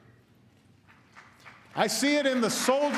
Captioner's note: applause